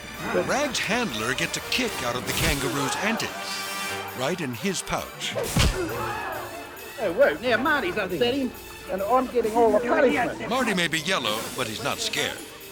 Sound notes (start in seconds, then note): 5.4 foot thudding